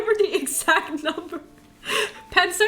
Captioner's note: laughter